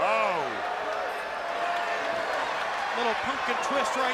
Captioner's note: crowd chatter